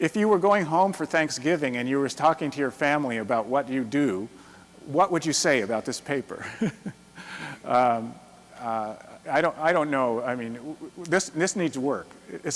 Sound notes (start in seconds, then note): 6.4 chuckles